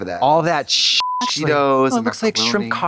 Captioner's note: beep